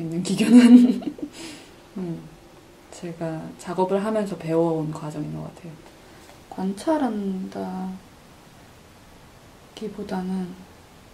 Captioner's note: giggling